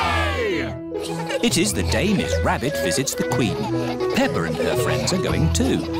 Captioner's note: all giggling